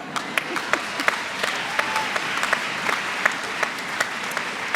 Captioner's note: applause